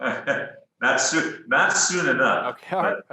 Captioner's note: chuckles